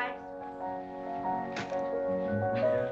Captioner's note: crunch